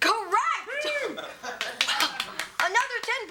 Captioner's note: cheers